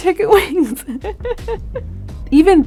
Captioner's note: Jillian laughing